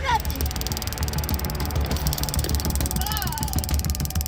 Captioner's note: taser pulsating